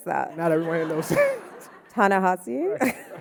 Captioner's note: audience laughing